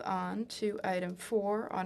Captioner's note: speaking in French